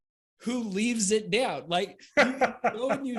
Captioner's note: laughs